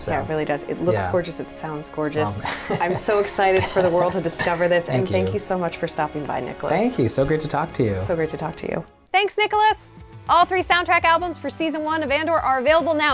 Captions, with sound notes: Yeah, it really does. It looks gorgeous. It sounds gorgeous. - Well... [laughs] - I'm so excited for the world to discover this. And thank you so much for stopping by, Nicholas. - Thank you. So great to talk to you. - So great to talk to you. Thanks, Nicholas! All three soundtrack albums for season 1 of "Andor" are available now,